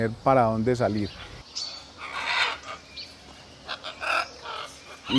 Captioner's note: guacamayas parlando